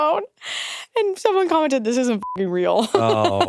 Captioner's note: beeps; chuckles